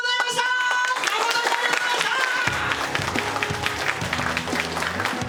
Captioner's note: applause